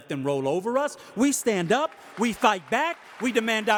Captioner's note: audience applauding